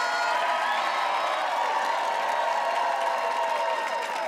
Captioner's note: audience cheers